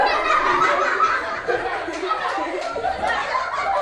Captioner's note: laughs